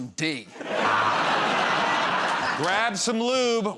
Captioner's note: laughter